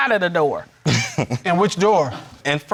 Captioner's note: chuckling